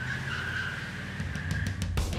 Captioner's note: tires screech; engine revs; peppy rock music